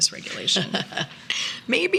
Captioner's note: laughing